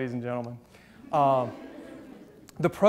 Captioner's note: audience chuckles